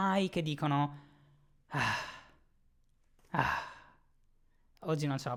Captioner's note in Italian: sigh